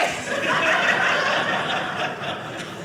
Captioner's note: audience laughing